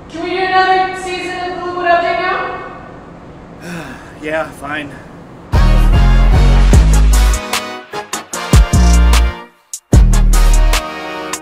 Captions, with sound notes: Can we do another season of The Liquid Update now? (sigh) yea... fine